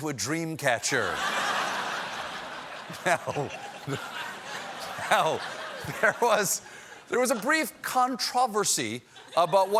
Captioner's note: laughter